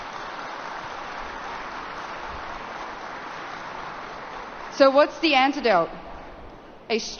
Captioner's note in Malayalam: കരഘോഷം